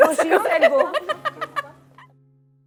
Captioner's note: laughs